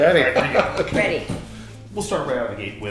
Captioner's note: laughing